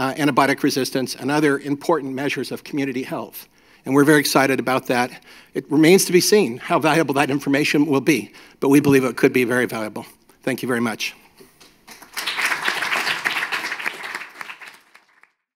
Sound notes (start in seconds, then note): 11.8 applause